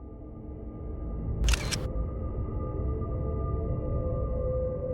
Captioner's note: camera clicks